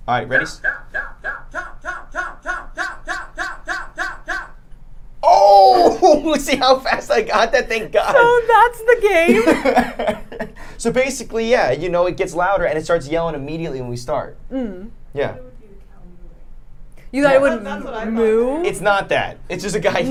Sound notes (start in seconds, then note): 0.4 game yelling cow increasingly louder; 10.2 laughing